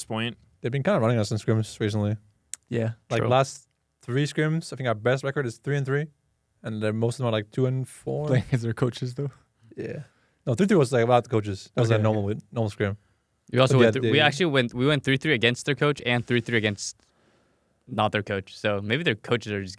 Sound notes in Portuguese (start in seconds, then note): 8.3 risos